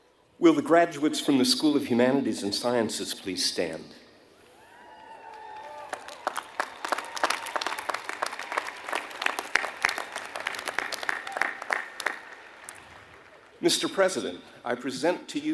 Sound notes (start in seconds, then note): 11.6 applause